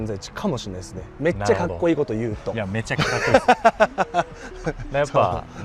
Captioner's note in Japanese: 笑い